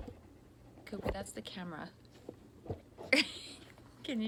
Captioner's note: laughs